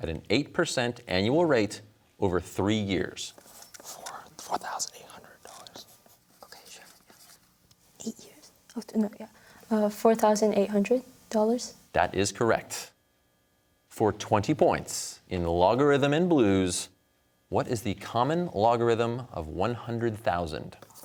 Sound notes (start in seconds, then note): 4.1 whispers